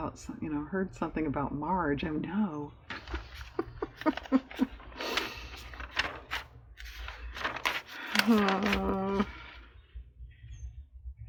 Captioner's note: laughs